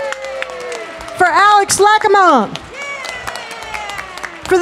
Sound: audience clapping

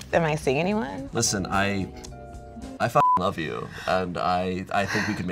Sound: beep

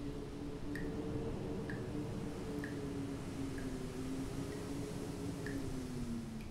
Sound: wind howls

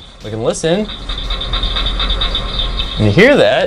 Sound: frogs chirpping

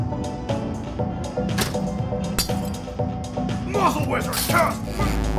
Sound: bottle breaking

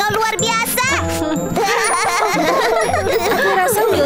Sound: both laugh

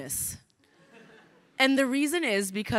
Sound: crowd laughing

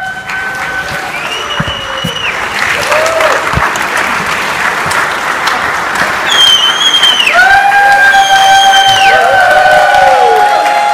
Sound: audience loudly cheers

